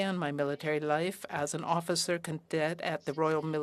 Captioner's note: speaking french